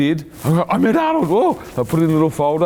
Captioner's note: exclaiming